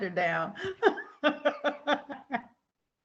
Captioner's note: laughing